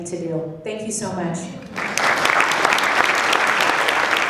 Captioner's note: applause